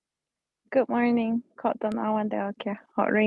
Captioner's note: speaking foreign language